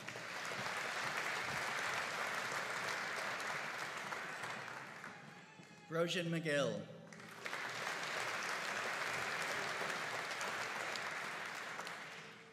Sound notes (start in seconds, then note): 0.0 audience applauding; 7.1 audience applauding